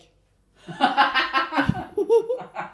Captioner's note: hahahahahahahaha!